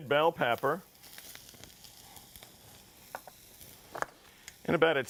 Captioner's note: sizzling pan